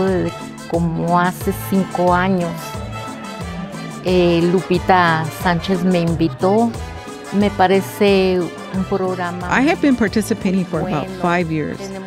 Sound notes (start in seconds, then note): 0.9 speaking spanish